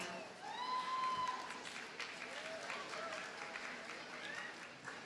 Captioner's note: audience cheers and applauds